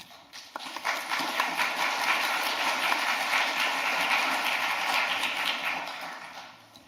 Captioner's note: claps